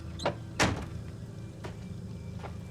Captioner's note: car door slams